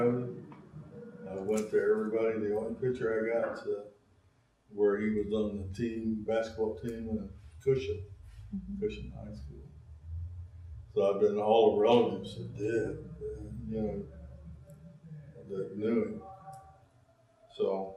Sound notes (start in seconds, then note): 0.0 laughs